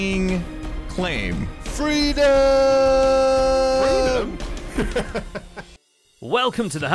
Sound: laughs

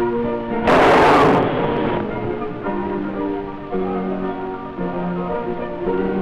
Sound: gunshots

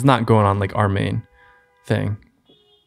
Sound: faint car horns honking

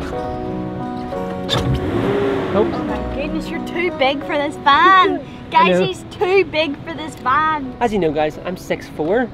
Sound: revs

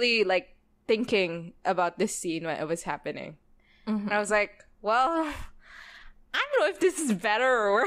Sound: laughs

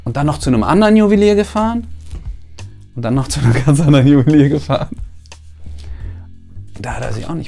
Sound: laughs

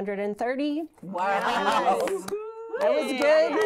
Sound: women cheering and clapping

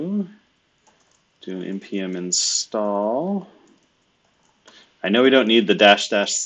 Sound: computer keyboard clicking

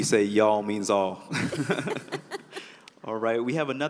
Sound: laughter

